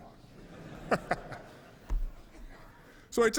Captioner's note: 笑声